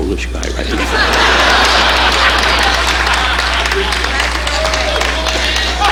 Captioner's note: audience laughing and applauding